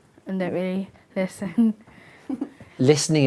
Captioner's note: giggles